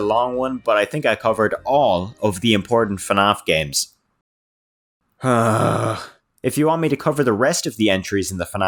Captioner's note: sighs